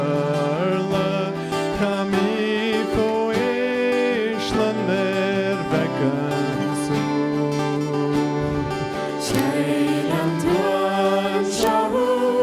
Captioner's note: applause